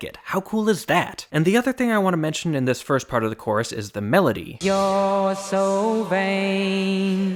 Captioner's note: bang